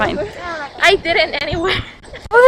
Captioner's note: laughs